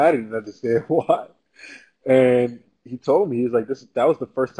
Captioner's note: laugh